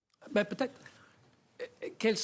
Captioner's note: speaking French